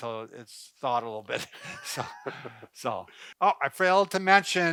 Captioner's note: laughs